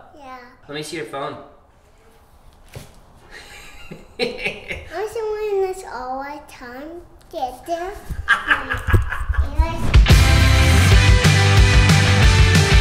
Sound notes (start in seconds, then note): 3.3 laughs; 8.1 laughs; 10.0 bright music